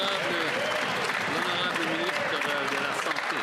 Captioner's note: applause